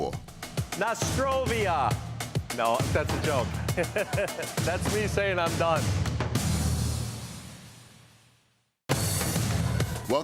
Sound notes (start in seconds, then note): 3.6 laughs